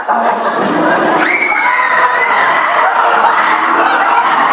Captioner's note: laughter; screaming